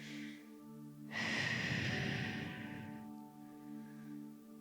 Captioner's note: sharp exhaling; gentle music